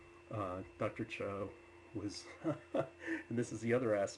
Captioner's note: laughs